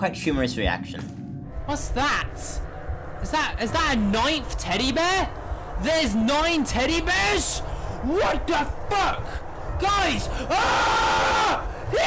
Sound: screaming

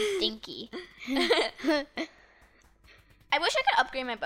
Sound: laughing

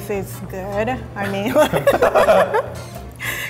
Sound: laughing

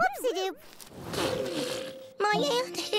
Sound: Antwon spitting sand

